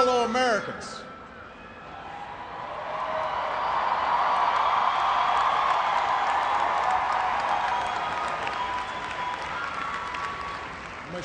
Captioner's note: cheers and applause